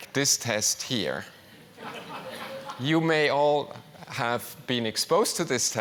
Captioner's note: laugh